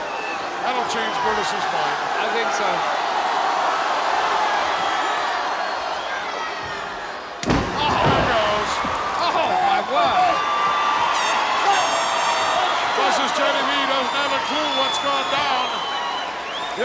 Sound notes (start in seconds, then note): 3.2 audience cheers; 11.2 audience cheers